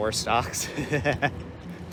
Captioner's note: laughter